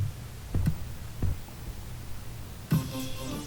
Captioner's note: TV static